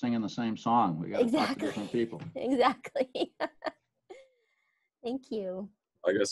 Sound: laughing

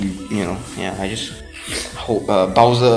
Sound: sniff

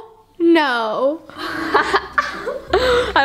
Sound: laughter

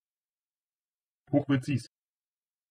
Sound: fast Pronunciation

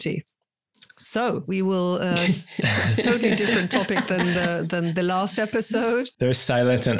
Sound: everyone laughs

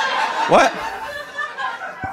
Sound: audience laughing

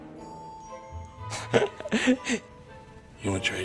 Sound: laughs

